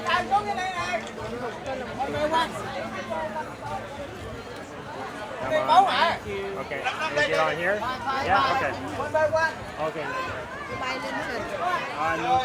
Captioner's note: people Chattering